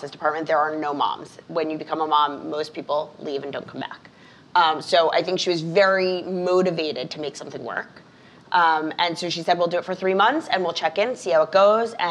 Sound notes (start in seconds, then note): none